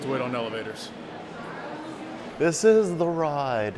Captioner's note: crowd noisily chatting